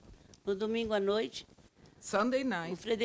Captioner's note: speaking Portuguese